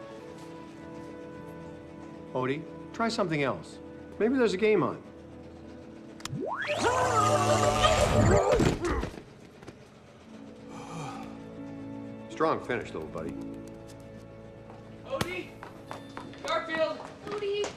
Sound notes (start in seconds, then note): 6.8 eletrical buzzing; 8.9 grunts and sighs